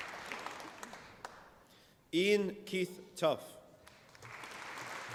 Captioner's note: applause